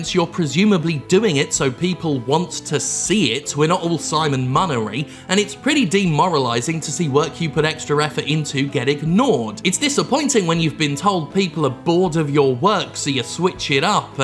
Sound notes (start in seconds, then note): none